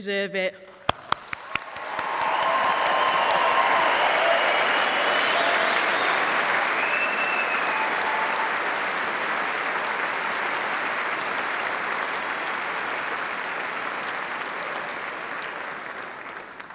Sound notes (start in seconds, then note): 0.8 applause